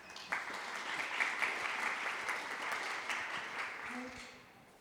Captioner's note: audience clapping